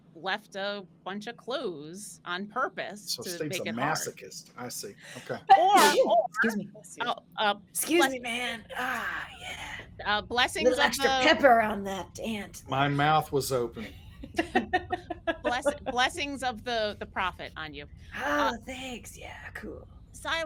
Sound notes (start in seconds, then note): 5.7 sneezes; 13.8 laughing